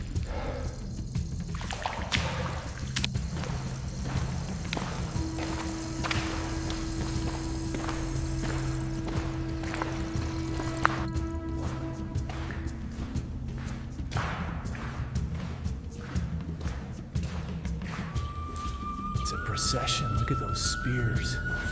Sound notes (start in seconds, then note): 0.0 water splashing